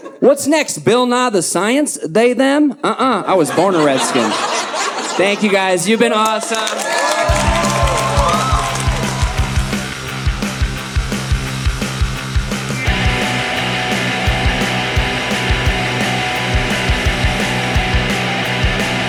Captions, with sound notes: What's next, Bill Nye the Science? They them? Uh-uh, I was born a red skin. Thank you guys, you've been awesome. (audience cheering)